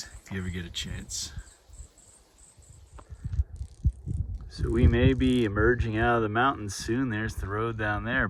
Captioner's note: wind and insect noise